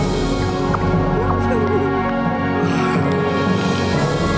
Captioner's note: giggling